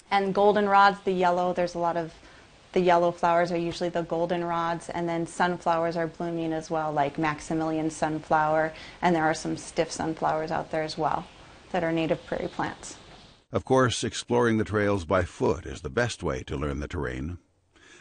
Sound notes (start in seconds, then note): 13.6 voiceover